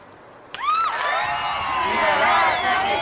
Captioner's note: fans screaming